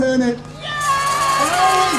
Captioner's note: applause